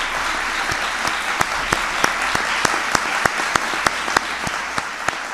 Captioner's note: applause